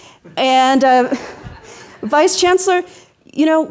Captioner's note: audience laughing